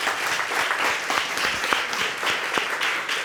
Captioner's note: audience clapping